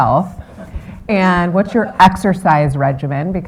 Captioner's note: chuckle; laughter